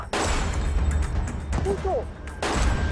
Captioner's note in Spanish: Disparo